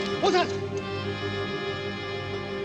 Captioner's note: speaking native language